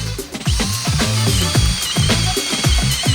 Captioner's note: drilling